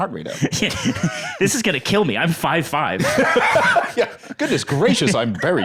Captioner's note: laughs